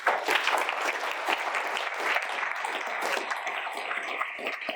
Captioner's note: audience applauding